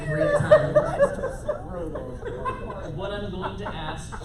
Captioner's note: laughter